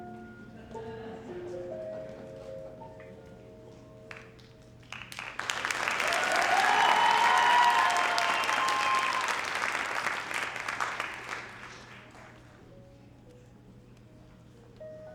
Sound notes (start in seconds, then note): 4.0 audience applauding; 4.9 audience cheering